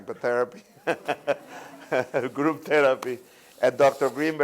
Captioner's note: laughter